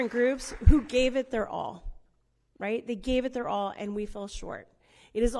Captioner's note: applause